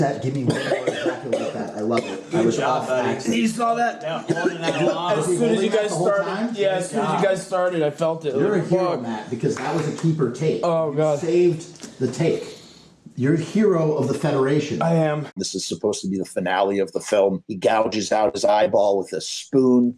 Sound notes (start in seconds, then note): 0.4 heroically held in coughing fit; 4.1 coughing fit continues